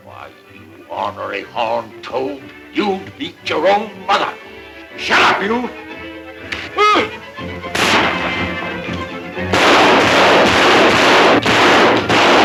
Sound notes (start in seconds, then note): 6.8 Tex groans; 7.6 gunshots thunder